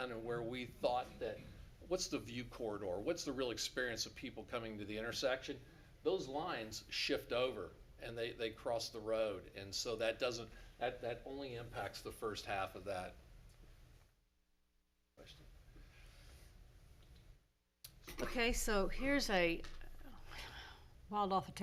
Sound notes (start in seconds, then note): none